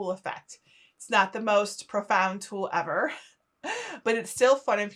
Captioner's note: chuckling